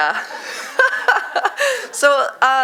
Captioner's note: laughs